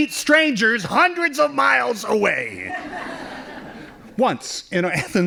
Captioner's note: laughing